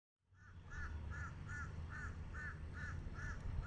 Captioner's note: gull cries